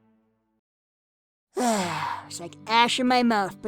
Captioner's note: Kirito sighs with content